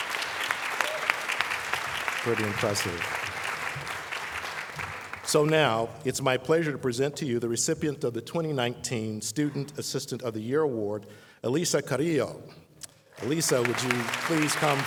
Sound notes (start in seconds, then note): 0.0 applause